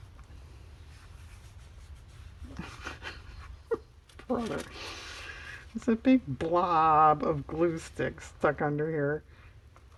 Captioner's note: laughs